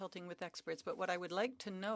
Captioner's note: speaking French